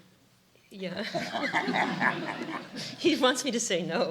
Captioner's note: laughter